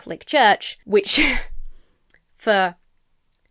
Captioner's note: chuckles